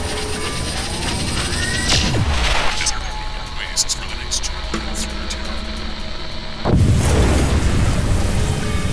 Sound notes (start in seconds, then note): 0.5 humming sound; 6.6 implosion sound